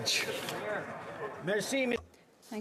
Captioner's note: speaking french